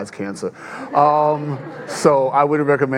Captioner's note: audience laughing